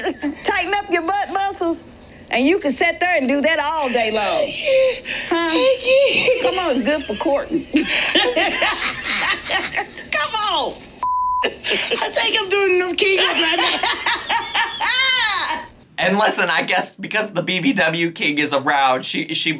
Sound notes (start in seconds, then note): 3.6 Tammy laughing; 8.0 laughing; 11.0 recorder beeps; 13.0 laughing